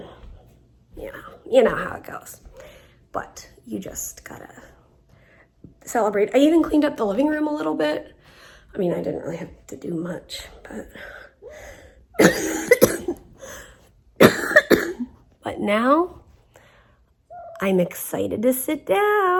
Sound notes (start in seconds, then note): 12.1 coughs